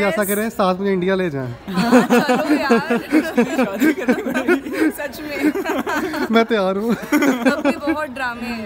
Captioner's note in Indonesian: tertawa